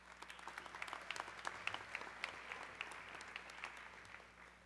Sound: audience clapping

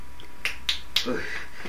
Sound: snapping fingers

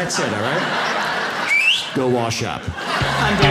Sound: whistles

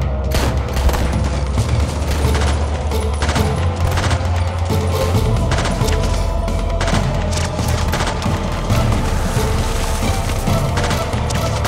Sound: gunfire

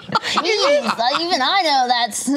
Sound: imitates child's voice

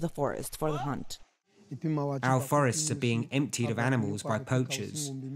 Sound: through translator

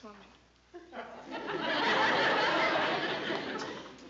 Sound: laughter

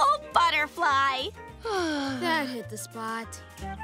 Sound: sighing

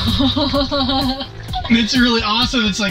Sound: upbeat music; laughing

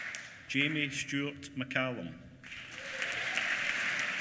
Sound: applause

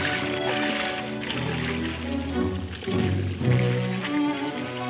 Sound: water swishing

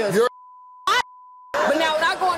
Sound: beep; beeping

